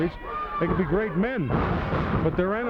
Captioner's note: body thudding